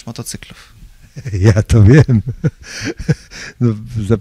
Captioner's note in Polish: śmiech